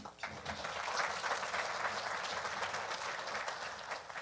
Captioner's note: audience applauding